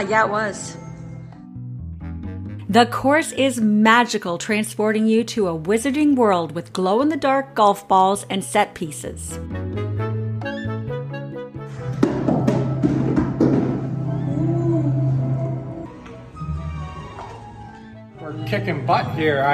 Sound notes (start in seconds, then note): 9.4 whimsical music; 12.0 ball clatters; 16.1 whimsical music